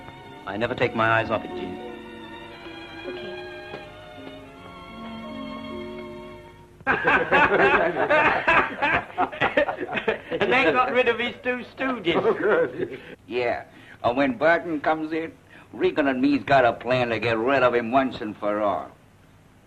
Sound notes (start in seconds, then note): 12.0 laughter